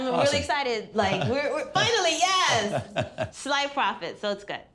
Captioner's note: chuckles